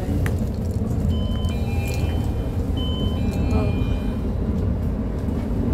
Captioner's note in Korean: 하차벨 소리